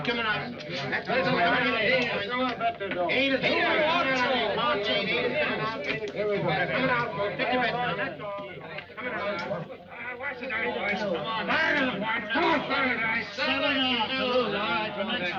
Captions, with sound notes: Shooter's coming out. (players chattering)